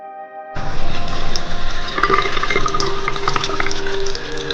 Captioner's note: water running